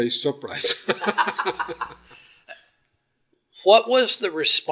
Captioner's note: both laugh